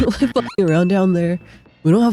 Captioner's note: hyucking